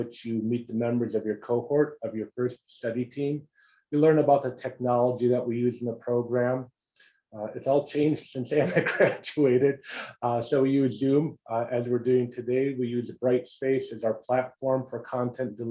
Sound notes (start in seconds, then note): 8.6 laugh